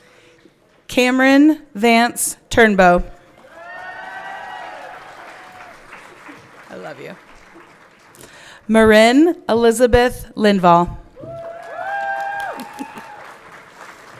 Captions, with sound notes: Cameron Vance Turnbow. (everyone clapping) I love you. Marin Elizabeth Lindvall. (everyone cheering)